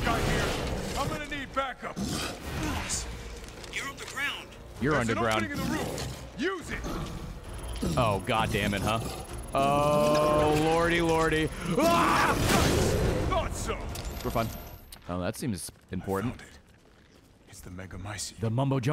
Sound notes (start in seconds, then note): 11.7 screams